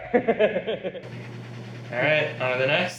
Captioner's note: laughing